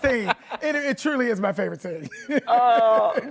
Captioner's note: laughs